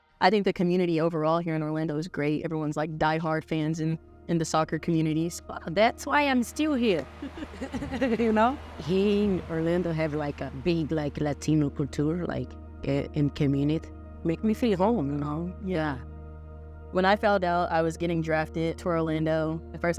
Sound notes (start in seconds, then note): 7.2 both chuckle